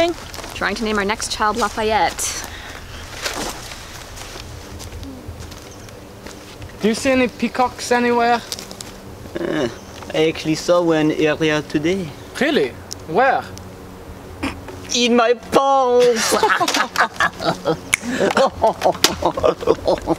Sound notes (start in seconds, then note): 16.0 laughing in french